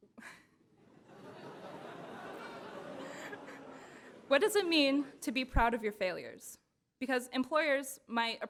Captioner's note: laughter